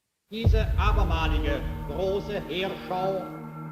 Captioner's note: archive, German speech